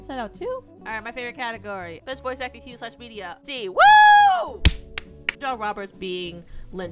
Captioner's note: clapping